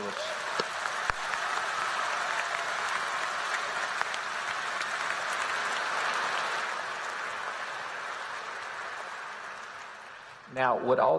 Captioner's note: applause